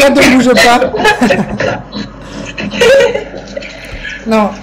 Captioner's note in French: Rire